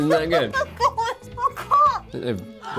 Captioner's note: laughing